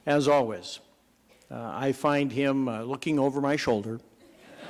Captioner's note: laughter